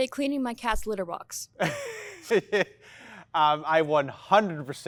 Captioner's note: laughs